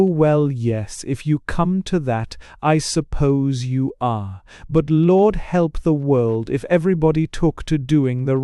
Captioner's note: matter-of-factly